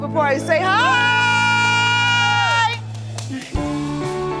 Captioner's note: cheering